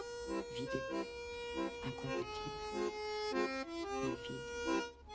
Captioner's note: speaking french